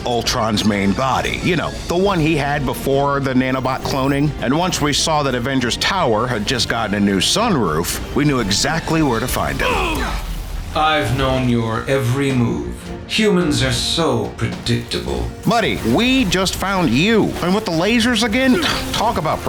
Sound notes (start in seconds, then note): 9.6 grunts; 18.3 scoffing